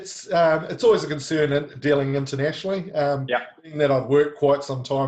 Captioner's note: chuckling